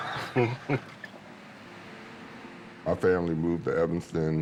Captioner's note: laughs